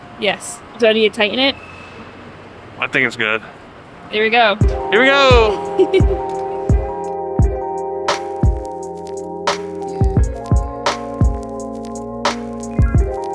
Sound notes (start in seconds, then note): 5.4 chuckles; 8.1 lo-fi music